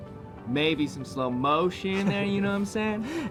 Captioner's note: chuckles